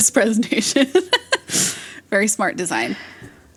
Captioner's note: laughs